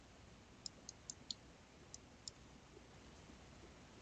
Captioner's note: mouse clicking